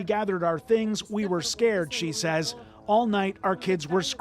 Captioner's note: speaking alternate language